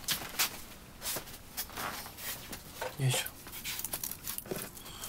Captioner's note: man speaking native language